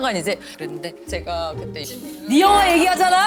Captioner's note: slurp!